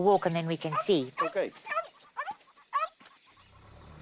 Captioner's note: barking